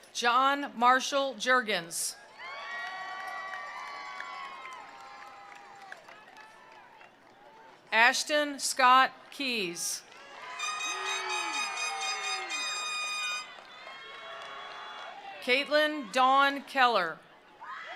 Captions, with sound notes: John Marshall Jergens. (attendees applauding) (attendees cheering) Ashton Scott Keys. (attendees applauding) (attendees cheering) Caitlyn Dawn Keller.